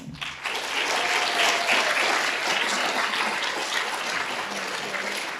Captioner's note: audience cheering and applauding